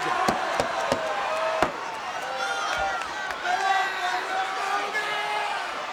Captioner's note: hands smacking; crowd cheering